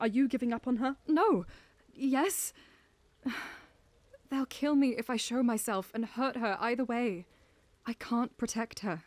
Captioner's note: sigh